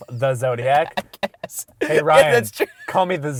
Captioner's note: voiceover